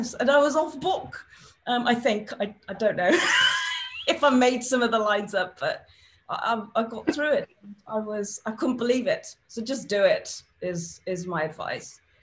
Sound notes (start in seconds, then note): 3.5 laughs